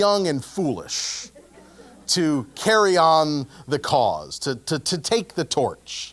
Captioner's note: laugh